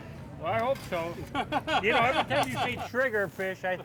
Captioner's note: laughing